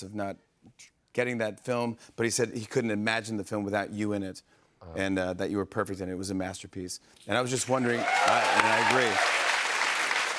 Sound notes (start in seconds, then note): 7.6 cheers and applause